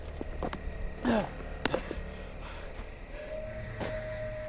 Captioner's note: Robert panting; soft tense music continues